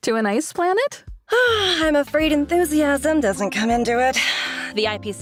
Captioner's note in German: seufz